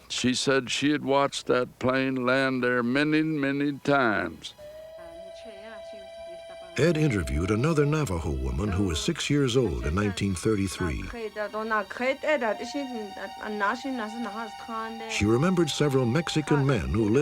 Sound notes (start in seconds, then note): 10.3 non-english